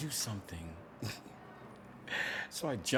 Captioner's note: laughs